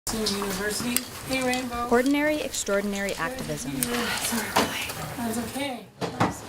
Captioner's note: talking in Background